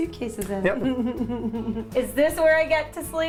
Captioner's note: laughs